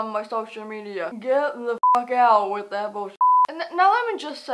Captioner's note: beep